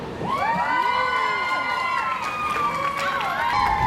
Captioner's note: audience cheering